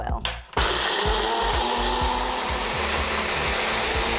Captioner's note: blender running